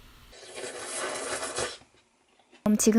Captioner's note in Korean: 후루룩